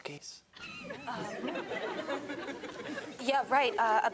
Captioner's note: audience laughing